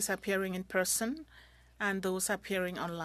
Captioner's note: speaking French